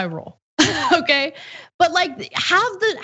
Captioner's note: laugh